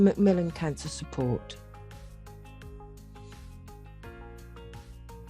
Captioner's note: silence for reflection